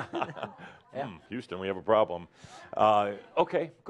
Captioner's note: they chuckle